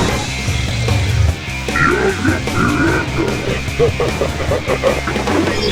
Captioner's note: laugh